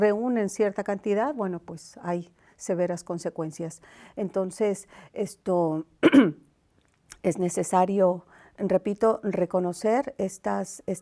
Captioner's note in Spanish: carraspeo